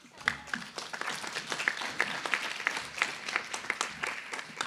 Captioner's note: applause